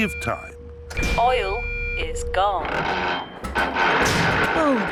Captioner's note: creaking